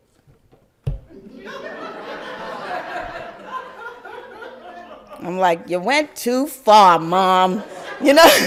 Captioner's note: crowd laugther; laugther